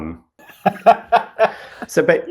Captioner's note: laugh